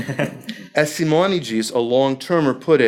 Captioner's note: speaking foreign language